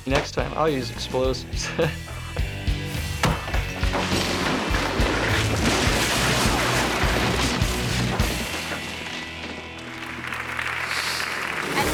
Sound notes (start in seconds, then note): 1.6 laughing; 3.0 sledgehammer thudding; 3.6 ceiling crashing; 9.7 audience applauding